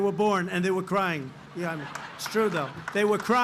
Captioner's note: laughter